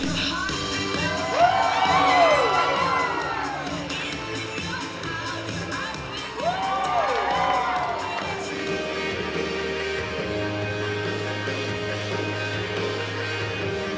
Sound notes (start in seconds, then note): 0.2 upbeat music; 3.5 crowd cheering